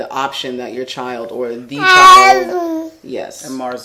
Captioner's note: babbling